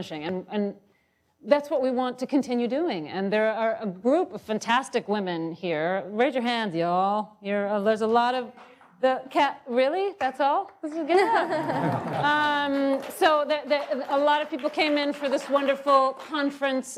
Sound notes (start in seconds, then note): 11.1 laughing